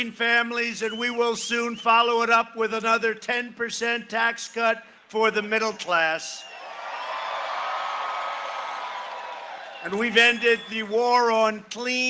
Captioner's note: cheering and applause